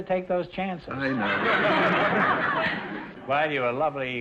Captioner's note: audience laughter